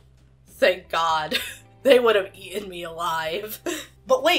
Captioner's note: laughs